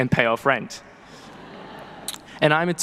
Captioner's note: people laughing